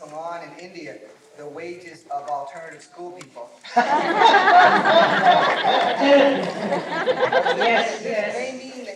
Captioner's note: laughter